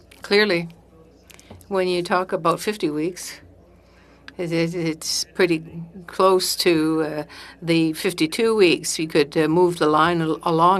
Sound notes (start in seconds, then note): 2.9 speaking French